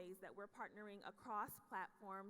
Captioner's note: none